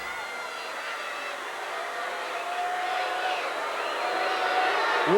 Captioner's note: crowd booing